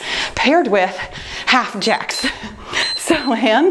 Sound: timer beeps

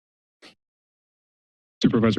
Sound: silence

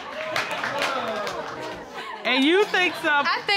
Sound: audience exclaiming

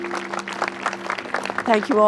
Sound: applause

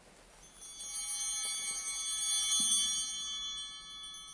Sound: bell ringing

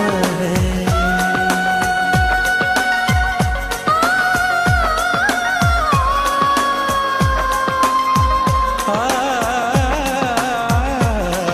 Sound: humming

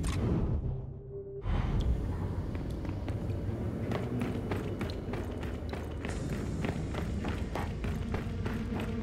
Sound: footsteps

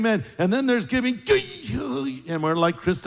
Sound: groans

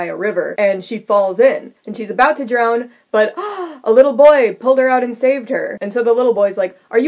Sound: gasp!

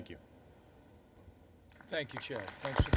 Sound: applause

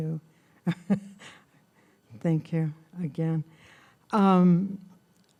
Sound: laughing

